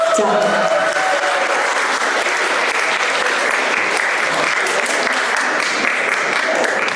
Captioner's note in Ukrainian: оплески